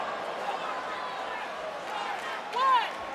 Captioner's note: audience groaning